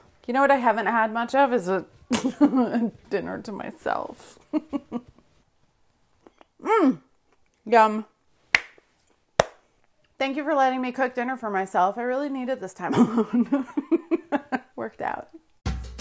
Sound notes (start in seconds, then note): 2.3 laughs; 8.7 claps; 13.0 laughs